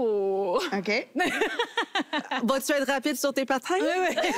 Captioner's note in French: rires